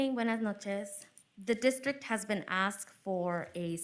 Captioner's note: speaking foreign language